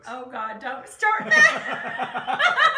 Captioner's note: both laughs